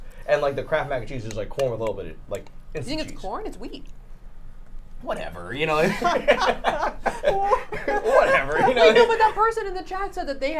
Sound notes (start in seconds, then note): 5.8 laughs; 5.9 laughing